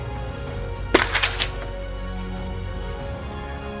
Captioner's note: thump and crashing slide